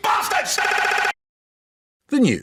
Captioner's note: Rik Mayall stutter loops